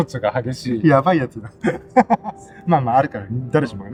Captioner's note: laughs